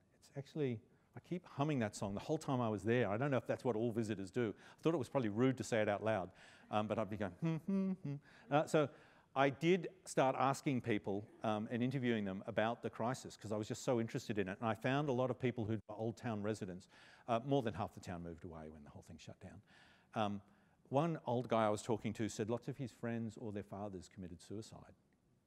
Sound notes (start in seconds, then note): 7.4 humming